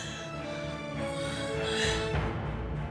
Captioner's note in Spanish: Sollozos